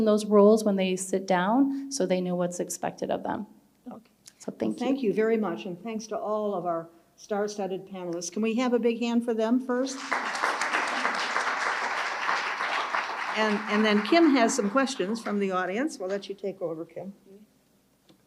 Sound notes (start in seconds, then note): 9.9 audience applauding